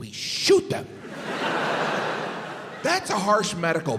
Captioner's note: crowd laughs